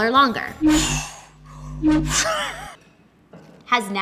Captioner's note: lightsaber thrums